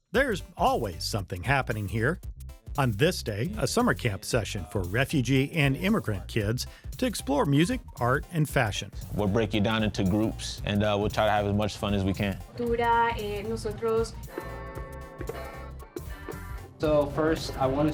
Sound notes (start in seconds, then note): 12.8 translator speaking foreign language; 14.4 playful music